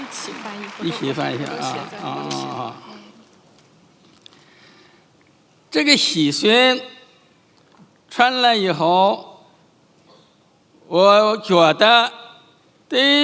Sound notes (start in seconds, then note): 0.1 speaking in foreign language; 6.0 chairman speaking in foreign language